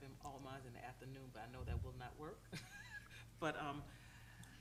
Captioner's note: chuckles